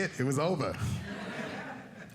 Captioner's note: audience laughing